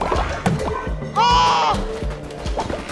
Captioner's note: exclamation of relief